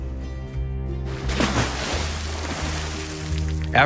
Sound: splash

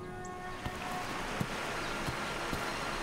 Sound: water running

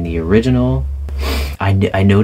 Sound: sniff

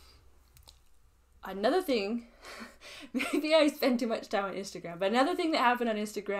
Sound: laughs

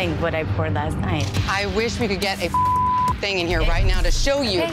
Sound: beep

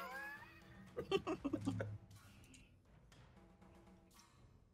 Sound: Fairuza giggles

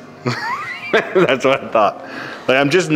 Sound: laughs

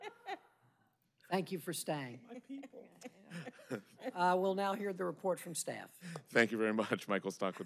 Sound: laughter

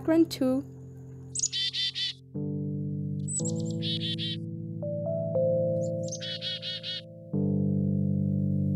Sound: chirping of Chickadee

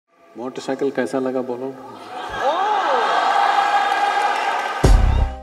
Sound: laughter/Applause; instrumental music plays

